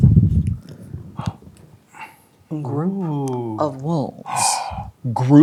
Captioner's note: gasps